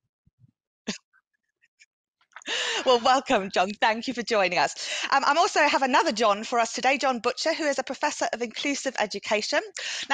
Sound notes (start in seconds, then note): 2.4 chuckles